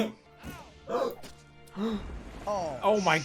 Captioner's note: dramatic gasp